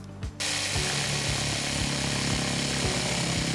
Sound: sawing

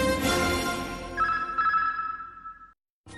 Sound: signals beeping

